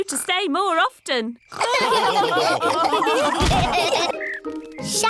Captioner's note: all laughing